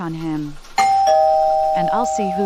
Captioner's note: doorbell